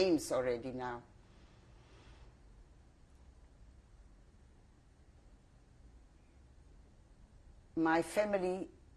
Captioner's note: pauses for 7 seconds